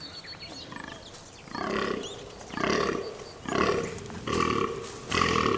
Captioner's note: deer grunting